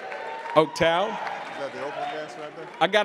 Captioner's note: attendees applauding and cheering